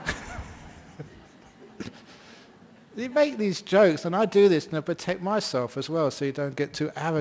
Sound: laughter

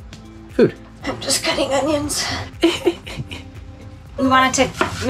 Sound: fake crying

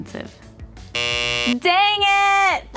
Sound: buzzer whirring

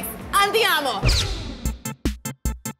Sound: bullet sfx; upbeat music

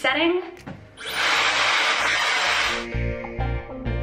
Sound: dryer whirring

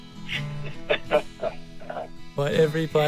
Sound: laughter

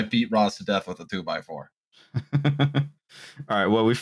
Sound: laughter

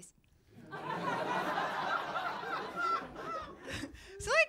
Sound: laughter

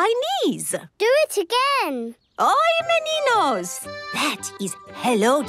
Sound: speaking Portuguese

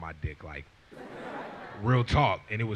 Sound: laughs

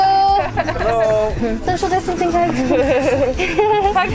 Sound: laughter

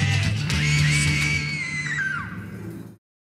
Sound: girl screaming

